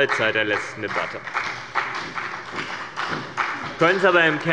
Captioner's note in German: Beifall bei dem BÜNDNIS 90/DIE GRÜNEN und der CDU